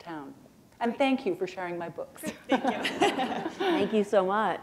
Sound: laughter

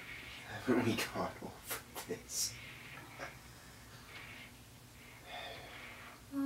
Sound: scoffs; sighs

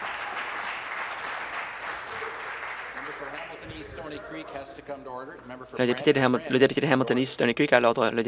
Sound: applause

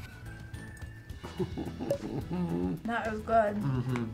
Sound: groans in satisfaction

